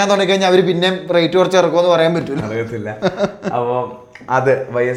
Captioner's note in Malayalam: പൊട്ടിച്ചിരി